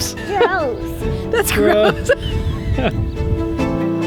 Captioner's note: laughs